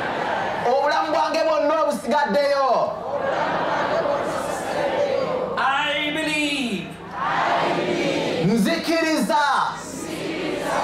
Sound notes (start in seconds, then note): 0.0 audience repeats in english; 2.7 audience repeats in local language; 6.5 audience repeats in english; 9.3 audience repeats in local language